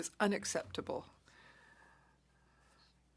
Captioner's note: speaking French